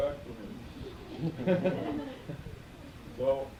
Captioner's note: laughter